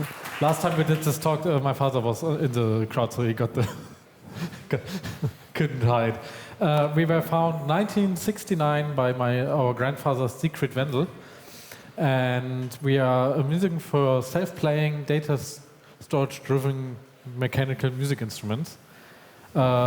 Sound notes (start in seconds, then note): 0.0 applause; 4.2 chuckles